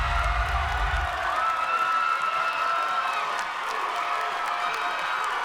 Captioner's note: music fades; audience cheering and clapping